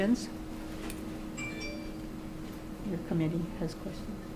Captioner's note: electronic device dings